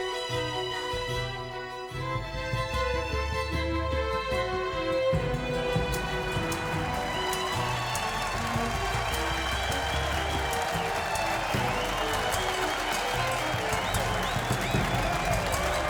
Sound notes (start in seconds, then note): 6.5 audience cheering and applauding